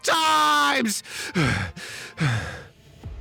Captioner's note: screams gibberish; breathing angrily